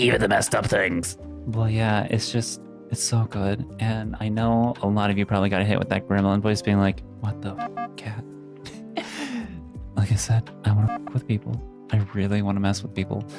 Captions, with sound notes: Even the messed up things. But, yeah, it's just, it's so good. And I know a lot of you probably got hit with that gremlin voice being like, what the fuck, Kat? (laughs) Like I said, I want to fuck with people. I really want to mess with people.